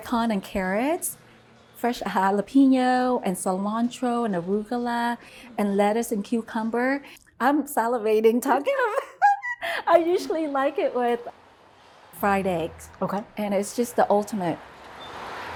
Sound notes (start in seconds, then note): 9.0 laughing